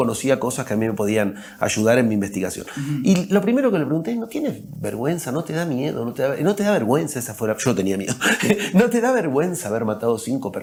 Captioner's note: laughs